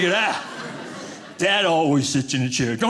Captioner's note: audience laughing